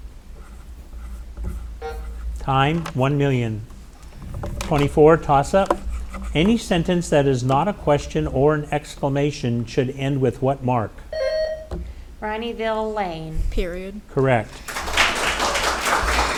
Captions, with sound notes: (timer buzzing) Time. 1,000,000. 24, toss-up. Any sentence that is not a question or an exclamation should end with what mark? (buzzer ringing) - Rineyville, Lane. - Period. - Correct. (audience applauding)